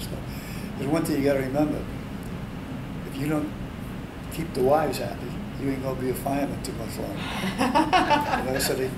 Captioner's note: all laugh